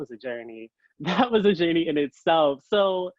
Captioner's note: chuckles